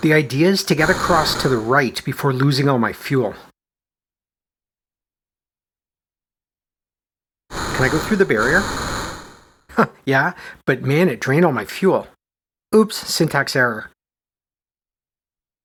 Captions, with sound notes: The idea is to get across to the right before losing all my fuel. Can I go through the barrier? [chuckles] Yup, but man, it drained all my fuel. Oops… syntax error.